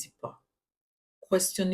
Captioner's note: paause